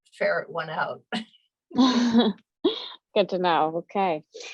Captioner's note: laughter